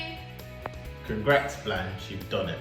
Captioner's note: speaks faintly